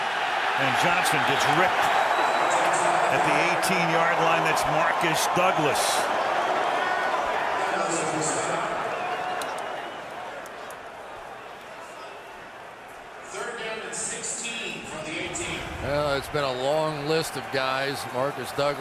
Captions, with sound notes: [cheering] And Johnson gets ripped at the 18-yard line. That's Marques Douglas. [stadium announcements] Third down and 16 from the 18. Well, it's been a long list of guys.